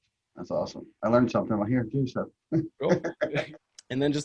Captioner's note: laughs